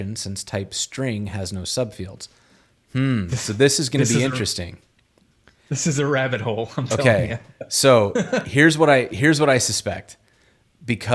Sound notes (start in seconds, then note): 6.5 chuckles